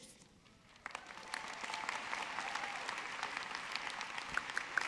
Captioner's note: audience clapping